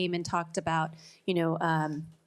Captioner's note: none